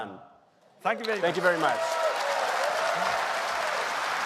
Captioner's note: cheers and applause